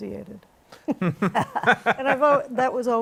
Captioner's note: laughter